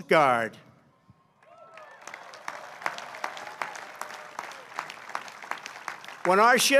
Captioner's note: applause